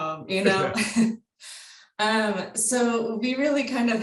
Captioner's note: chuckles